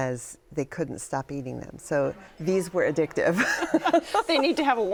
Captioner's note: laughs